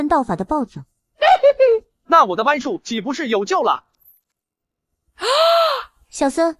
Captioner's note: chuckling